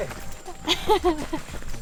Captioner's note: laughter